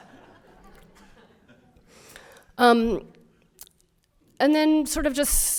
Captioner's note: audience laughter